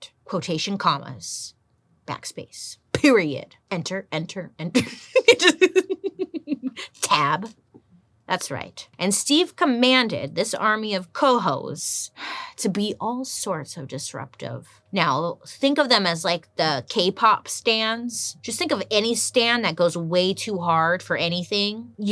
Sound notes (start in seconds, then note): 4.7 giggles